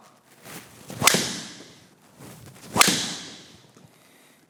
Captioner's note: club smacking